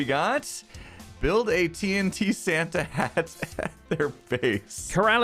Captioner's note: laughs